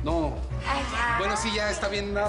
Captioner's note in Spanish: Exclamaciones